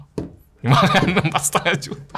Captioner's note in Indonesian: tertawa